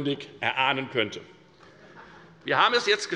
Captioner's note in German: Heiterkeit